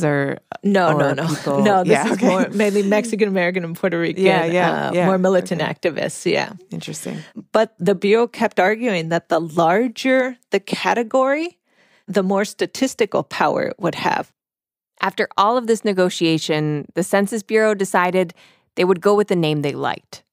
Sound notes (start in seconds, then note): 0.8 laughs; 1.0 chuckles